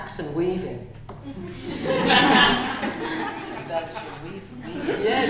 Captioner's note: audience laughing